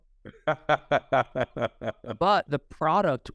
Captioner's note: chuckles